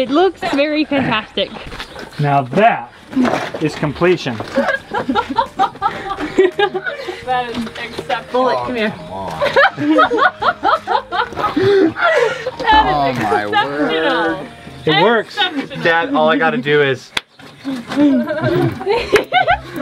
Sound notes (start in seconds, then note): 4.4 laughter